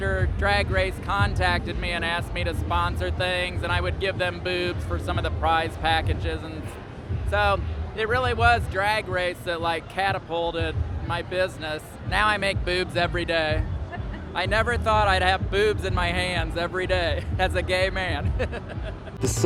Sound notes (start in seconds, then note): 13.9 laughter; 18.2 laughs; 18.8 electric dance music